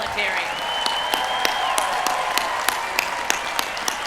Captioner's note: cheering